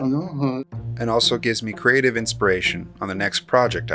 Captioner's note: voiceover